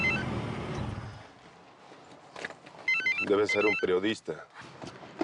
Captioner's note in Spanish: Suena un celular